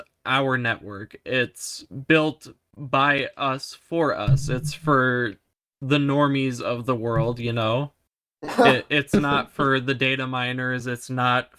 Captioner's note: laugh